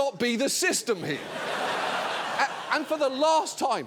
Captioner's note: audience laughing